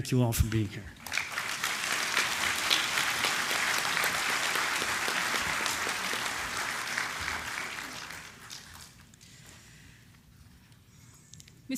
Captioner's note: applause